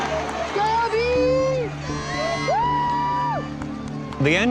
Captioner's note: cheering